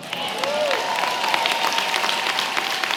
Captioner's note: applause